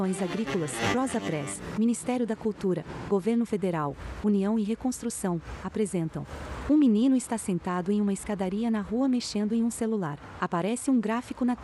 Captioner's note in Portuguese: Ruídos urbanos